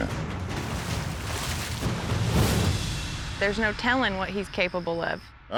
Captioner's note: splashing